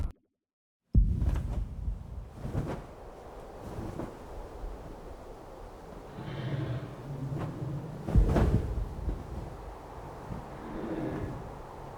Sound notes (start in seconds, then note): 1.1 feathers flap; 2.3 wind whirls